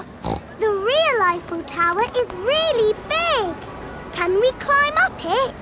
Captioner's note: snorts